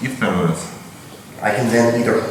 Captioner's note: speaking in a foreign language